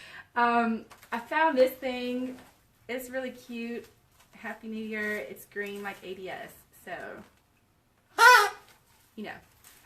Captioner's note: blows horn